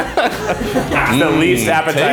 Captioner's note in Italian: ride